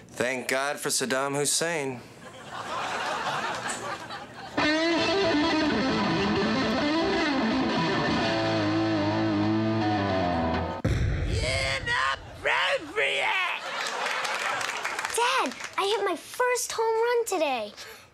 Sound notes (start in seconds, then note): 3.3 whispering; 4.5 rock guitar playing